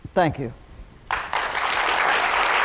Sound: applause

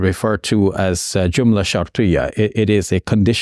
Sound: speaks in Arabic

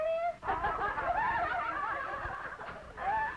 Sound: laughing

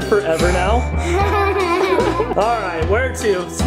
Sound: laughs

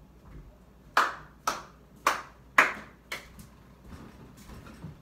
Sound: clap, Clap, Clap, Clap, Clap

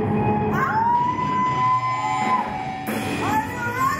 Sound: audience cheers

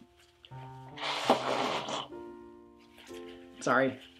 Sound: blows nose

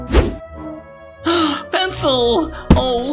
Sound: gasp

